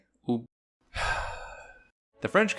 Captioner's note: sighs loudly